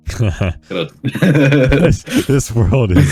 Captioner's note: laughing